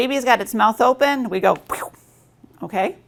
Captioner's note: squirting sound